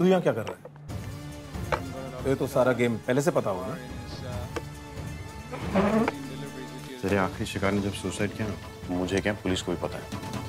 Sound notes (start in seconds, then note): 5.5 chair moving